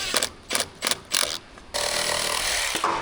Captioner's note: drill whirring